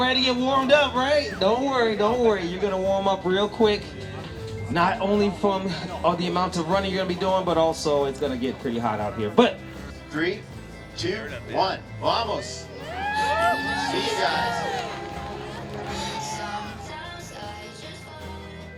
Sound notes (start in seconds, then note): 16.2 crowd cheers